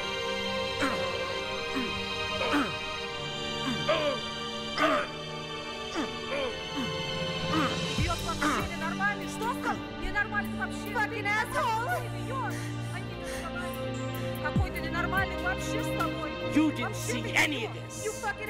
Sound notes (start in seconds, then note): 2.2 grunting; 8.2 speaking in foreign language